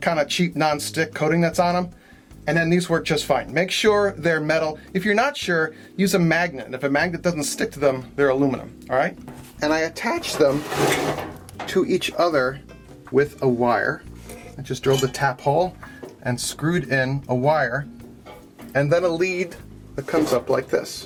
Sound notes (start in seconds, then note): 10.2 slides metal across table